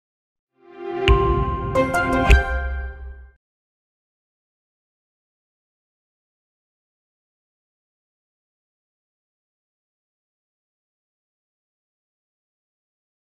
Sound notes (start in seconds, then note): 1.1 chimes ringing